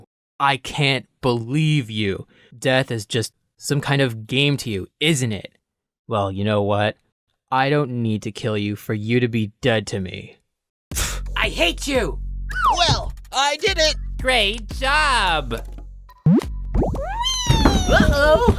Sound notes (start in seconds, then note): 10.7 scoff